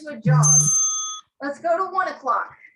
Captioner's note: bell rings